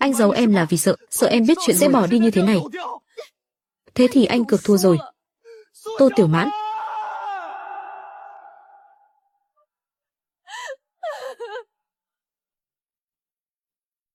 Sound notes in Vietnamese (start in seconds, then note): 5.8 la hét; 11.0 khóc